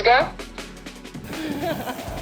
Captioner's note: laughing